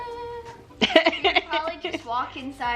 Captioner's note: laughing